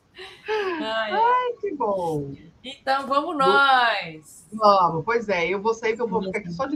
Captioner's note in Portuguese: risadas; suspirando